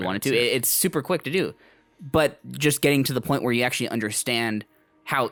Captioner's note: none